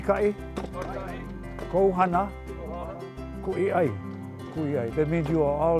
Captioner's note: speaking Hawaiian